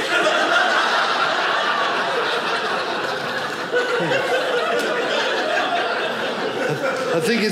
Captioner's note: audience laughing